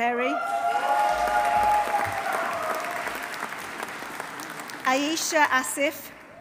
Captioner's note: audience cheering; audience applauding